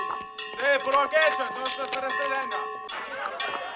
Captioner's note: man speaking illyrian language; man shouting in illyrian language; crowd laughing